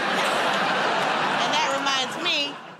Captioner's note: laughter